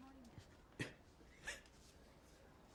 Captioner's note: coughing